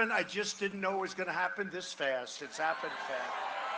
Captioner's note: cheering and applause